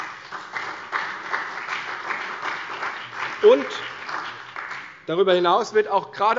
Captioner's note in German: Beifall bei der CDU und dem BÜNDNIS 90/DIE GRÜNEN